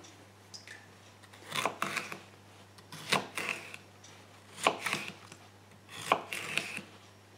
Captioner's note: chopping and slicing sounds